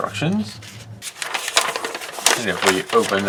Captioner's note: paper crinkles